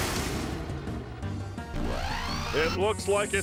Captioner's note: mechanical whirring